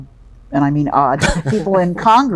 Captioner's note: laughing